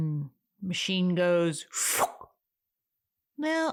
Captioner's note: sucking sound